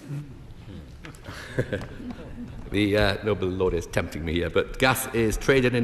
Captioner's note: laughs